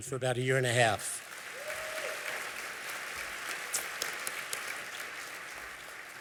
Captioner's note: applause